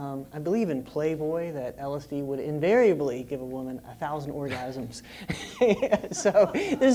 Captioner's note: laugh